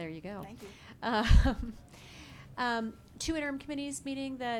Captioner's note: laughing